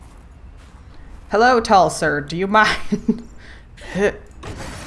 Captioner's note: laughs